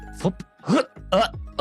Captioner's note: grunting